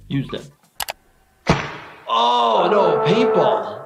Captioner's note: paintball gun fires